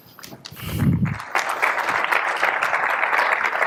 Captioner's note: applause